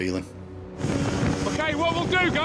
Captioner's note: boat engine revving